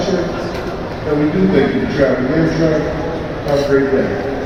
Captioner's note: male announcement